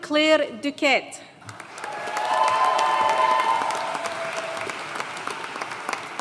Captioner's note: audience cheering and applauding